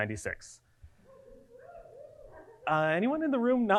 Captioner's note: audience cheering